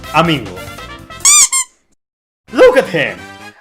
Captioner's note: squeak